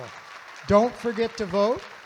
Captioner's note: audience Applauding